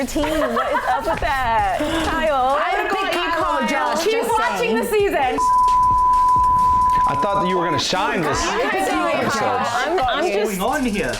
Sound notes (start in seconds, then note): 5.2 beeping